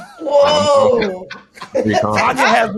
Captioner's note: laughing